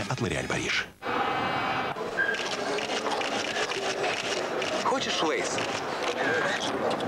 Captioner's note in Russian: хруст